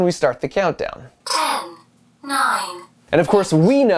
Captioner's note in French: Voix robotique